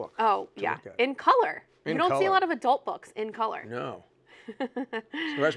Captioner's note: laughter